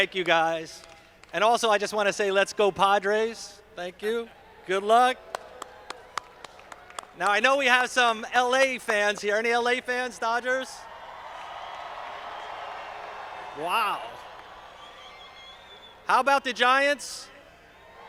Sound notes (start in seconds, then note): 0.0 audience clapping; 10.8 audience applauding